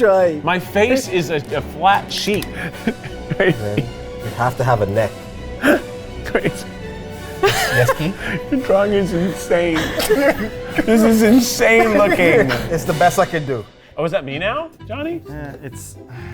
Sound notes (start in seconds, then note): 7.2 laughs; 7.2 both laughing